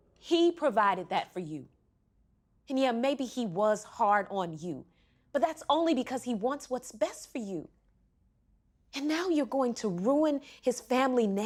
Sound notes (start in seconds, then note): none